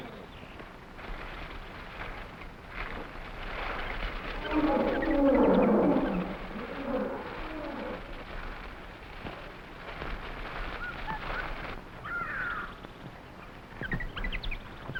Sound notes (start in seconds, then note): 1.3 gorillas groaning; 1.3 plants rustling